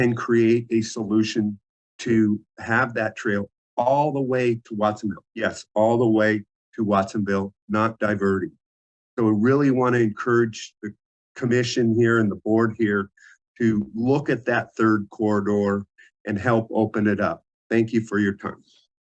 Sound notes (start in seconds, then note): none